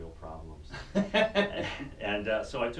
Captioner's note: laughter